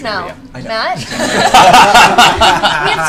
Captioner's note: laughter